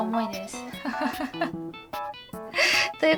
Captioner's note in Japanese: 引き笑い